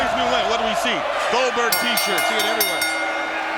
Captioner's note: bell dinging